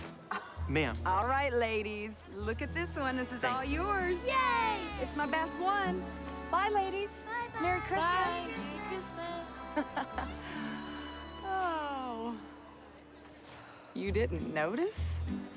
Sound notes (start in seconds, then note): 10.0 laughs